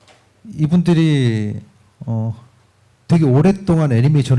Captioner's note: speaking korean